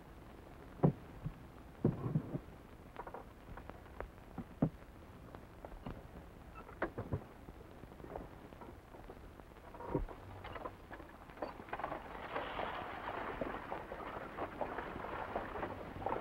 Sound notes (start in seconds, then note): 11.3 wagon rattling